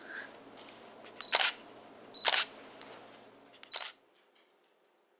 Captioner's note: camera shutter clicking